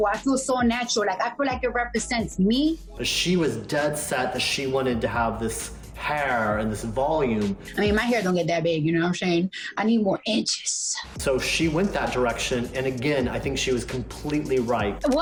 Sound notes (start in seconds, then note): none